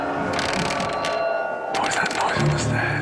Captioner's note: loud creaking